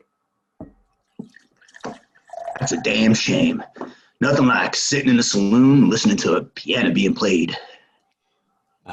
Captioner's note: sound of a beverage being poured